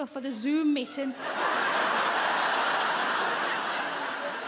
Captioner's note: audience laughs